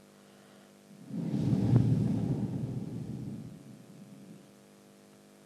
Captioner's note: shree mataji blows into the microphone